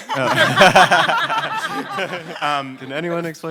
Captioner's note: panelists laugh